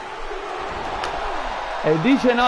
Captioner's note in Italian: Applauso